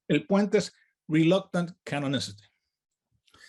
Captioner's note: none